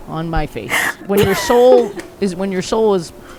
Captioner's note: laughing